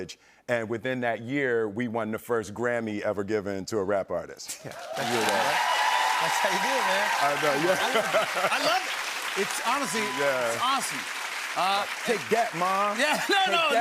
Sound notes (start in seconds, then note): 4.8 cheers and applause